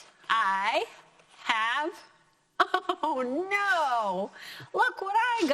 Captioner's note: laughing